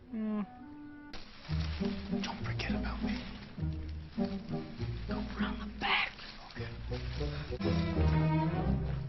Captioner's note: whispering